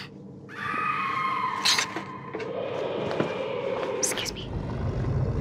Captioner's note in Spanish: mujer gritando